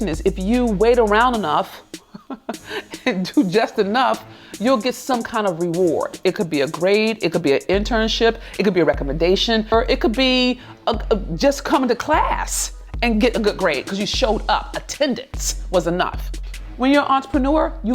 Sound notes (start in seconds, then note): 2.0 laughs